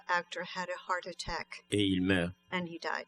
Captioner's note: speaking french